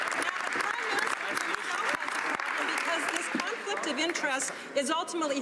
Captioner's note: some Applause